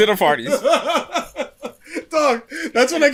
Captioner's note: laughter